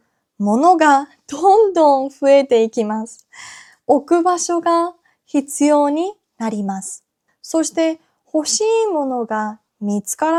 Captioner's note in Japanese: 息をのむ音